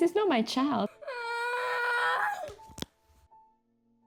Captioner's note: crying